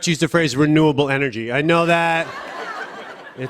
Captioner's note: laughter